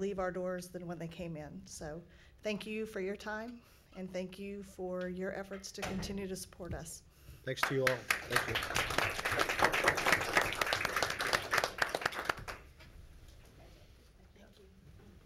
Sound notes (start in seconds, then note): 9.5 applause